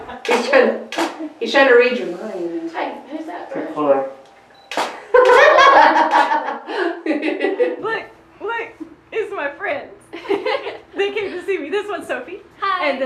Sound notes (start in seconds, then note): 4.6 camera shutter; 5.1 laughing